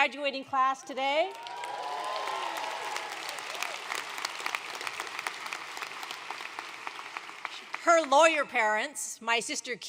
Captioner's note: applause